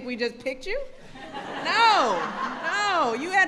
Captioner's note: laughter